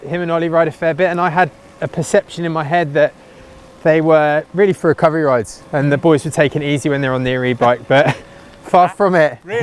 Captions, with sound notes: Him and Olly ride a fair bit. And I had a perception in my head that they were really for recovery rides. And the boys would take it easy when they were on their E-bike. (laughter) But far from it.